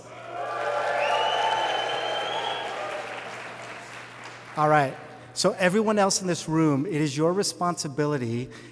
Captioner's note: audience making noise